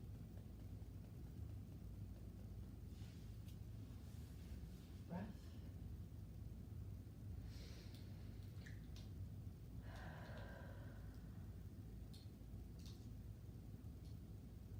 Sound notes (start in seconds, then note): 7.6 breathing deeply